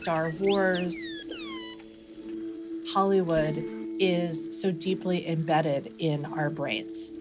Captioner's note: soundbite of beeping